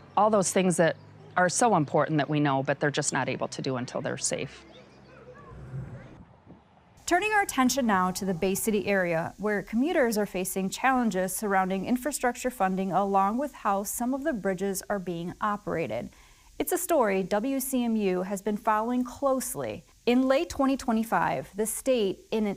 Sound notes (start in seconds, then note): 5.5 screen whooshing